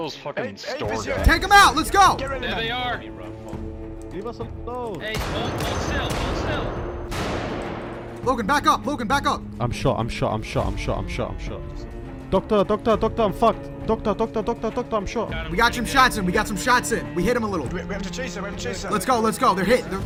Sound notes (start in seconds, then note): 1.5 shouts; 5.0 gunshots; 7.2 gunshots echo through the mall